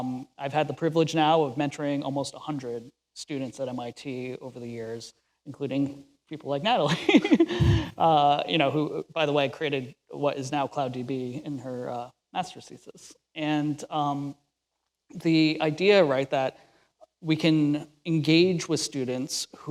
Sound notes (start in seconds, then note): 7.0 laughs